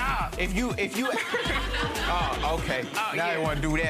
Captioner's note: audience laughing